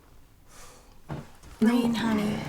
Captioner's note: sighs